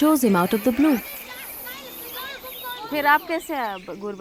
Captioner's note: children talking in distance